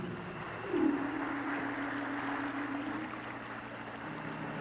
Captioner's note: water splashing